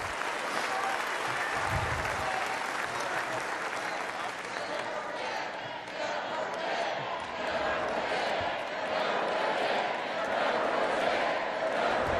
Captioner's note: applause